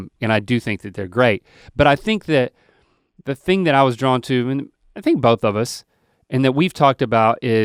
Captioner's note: none